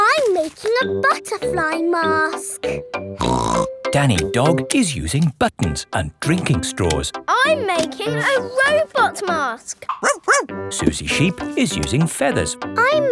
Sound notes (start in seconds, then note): 3.2 snorts; 10.0 barks